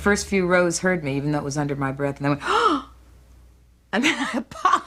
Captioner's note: gasping